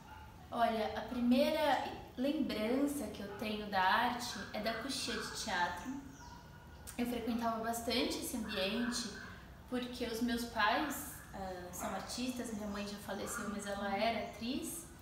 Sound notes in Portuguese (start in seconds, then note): none